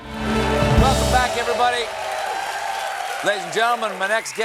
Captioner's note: cheers and applause